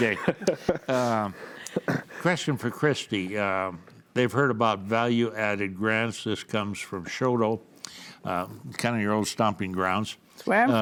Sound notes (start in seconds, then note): 0.0 laughs; 3.5 laughs